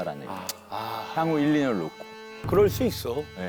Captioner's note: sighs